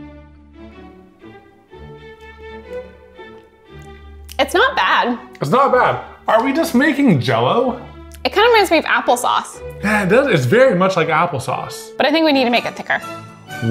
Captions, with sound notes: (lips smacking) It's not bad. It's not bad! Are we just making jello? It kind of reminds me of apple sauce. Yeah, it does! It's very much like apple sauce. But I think we need to make it thicker. (classical music intensifies)